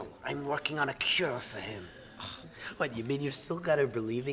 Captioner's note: scoffs